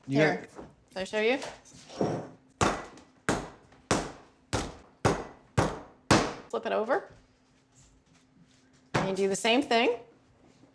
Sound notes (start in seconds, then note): 2.6 pounding sound